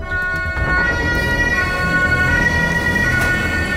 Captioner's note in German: Sirene, spannungsvolle Musik